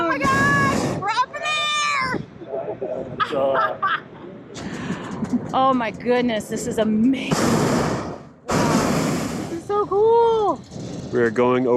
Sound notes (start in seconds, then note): 7.2 burner roars